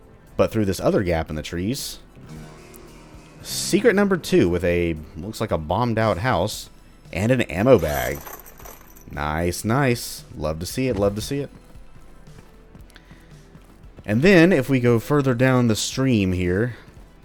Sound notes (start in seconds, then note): 2.2 riff plays; 7.7 ammo clattering